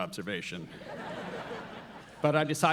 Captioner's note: audience laughs